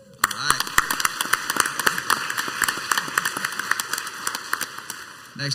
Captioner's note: crowd applauds